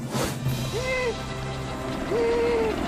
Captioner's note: Sadie Wailing